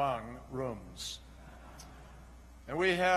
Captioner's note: laughter